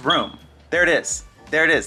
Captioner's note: beep